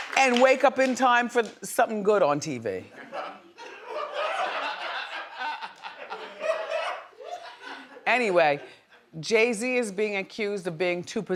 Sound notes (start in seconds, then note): 3.0 audience reacts